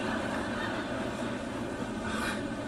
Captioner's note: laughter; chuckles